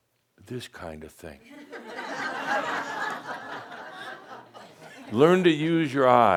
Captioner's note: laughter, as Adamus nods his head and makes a “serious” face